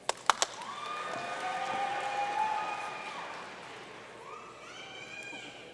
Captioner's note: audience cheering and applauding